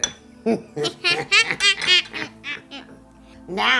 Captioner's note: witchy laughing